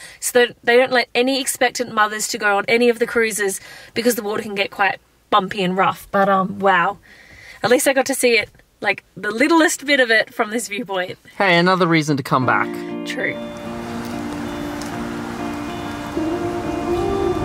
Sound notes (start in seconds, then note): 14.6 waves gargle